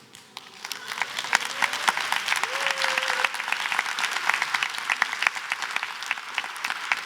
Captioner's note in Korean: 박수와 환호